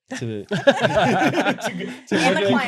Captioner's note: riotous laughter